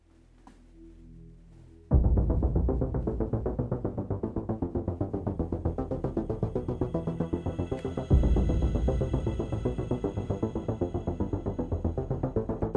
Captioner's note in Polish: dźwięk spowalniający się z przewodu